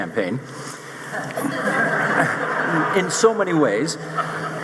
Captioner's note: audience laughing